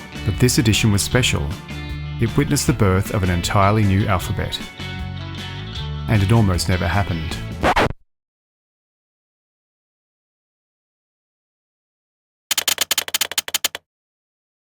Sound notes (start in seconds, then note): 7.5 record needle skips; 12.5 sound of keystrokes